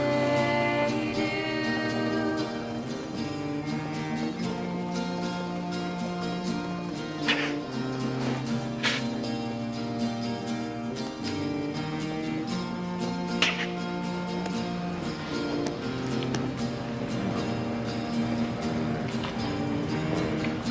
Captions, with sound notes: ■ I honestly do ■ ■ - (crying)